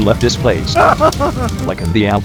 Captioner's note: weeping